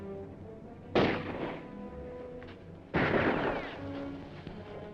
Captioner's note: guns firing; dramatic music